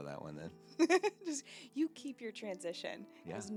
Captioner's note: laughing